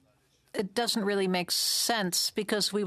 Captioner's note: speaking French